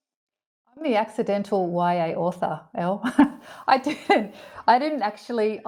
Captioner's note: laughs